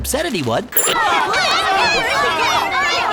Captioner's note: panicked shouts